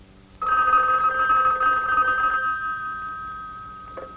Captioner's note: phone ringing